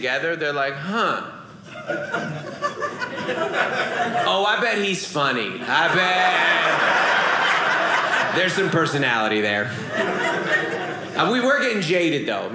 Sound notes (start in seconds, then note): 1.7 audience laughing